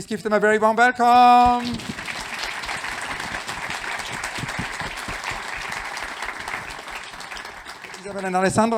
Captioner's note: applause